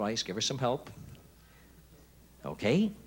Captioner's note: whispering